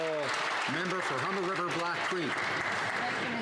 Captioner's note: some Applause